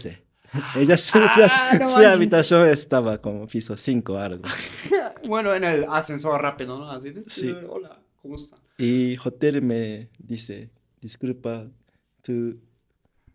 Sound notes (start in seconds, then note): 4.3 laughs